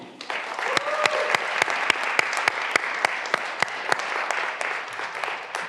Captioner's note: graduands cheering and applauding